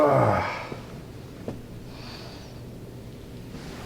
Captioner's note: Jimmy groaning